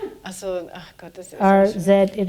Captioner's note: speaking german